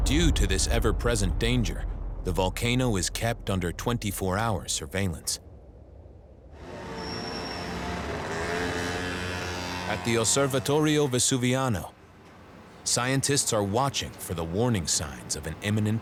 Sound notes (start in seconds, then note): 6.6 engines humming